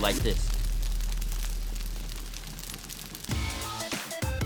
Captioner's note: fire crackling; upbeat music